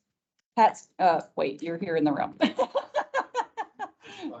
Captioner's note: laughs